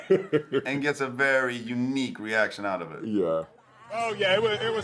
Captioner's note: laughs